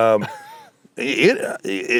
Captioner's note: chuckling